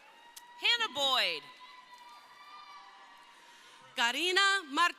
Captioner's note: crowd cheering